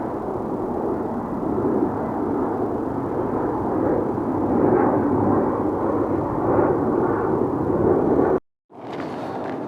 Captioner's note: plane Engine